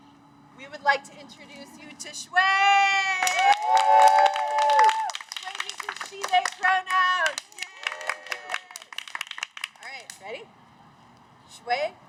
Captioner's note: cheers